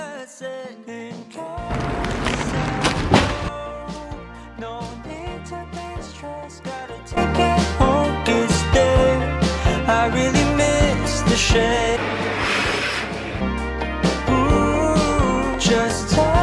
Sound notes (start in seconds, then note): 12.0 started vacuuming the entire room